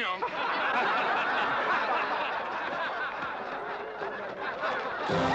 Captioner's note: crowd laughing